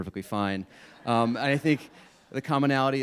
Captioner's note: audience laughing